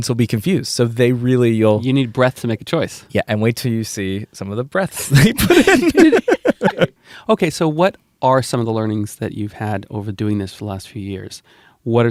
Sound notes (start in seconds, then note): 5.0 laughter